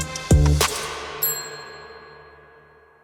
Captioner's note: notification bell